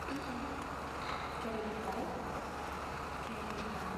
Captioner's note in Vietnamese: Tiếng Tây Ban Nha